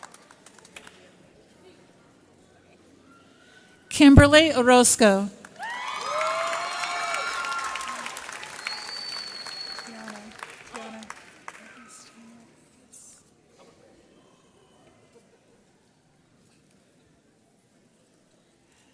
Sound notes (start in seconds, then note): 5.6 audience cheers